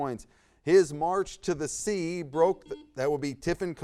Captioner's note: buzzer buzzes